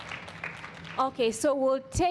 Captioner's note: audience applauds